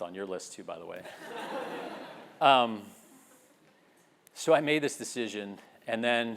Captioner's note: laugh